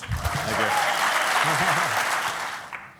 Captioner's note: applause